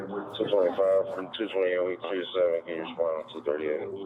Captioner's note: radio chatter